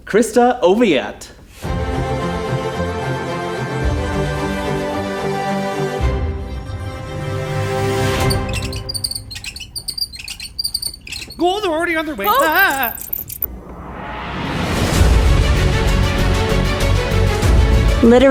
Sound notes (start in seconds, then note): 1.7 uptempo dramatic music; 8.1 screen squeaking; 15.1 tense dramatic music